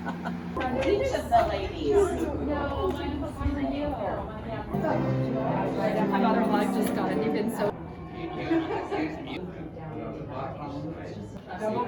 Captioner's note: chitter chatter